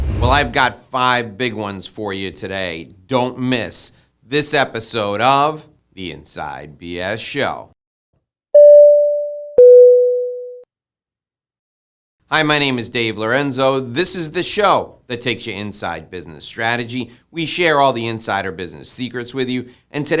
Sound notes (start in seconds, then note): 8.5 tone sounding